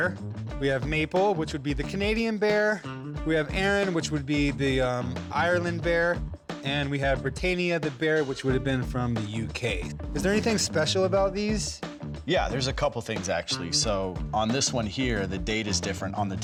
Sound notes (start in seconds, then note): none